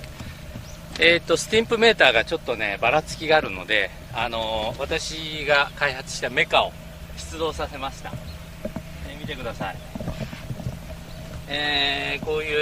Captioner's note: bouncing